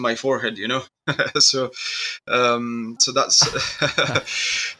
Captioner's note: laughs